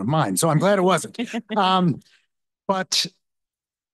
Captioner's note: laughs